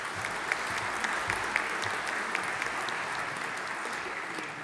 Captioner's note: audience applauding